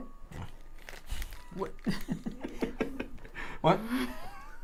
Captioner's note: laughing